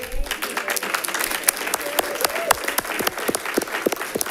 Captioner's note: audience clapping